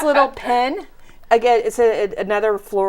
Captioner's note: laughing